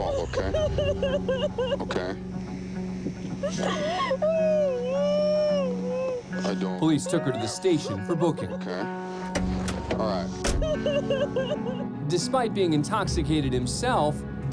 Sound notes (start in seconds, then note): 0.0 crying; 3.0 sobbing; 10.4 sobbing